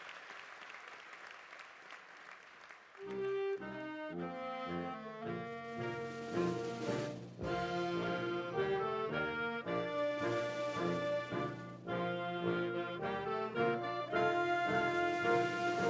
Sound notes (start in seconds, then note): 1.6 applause continues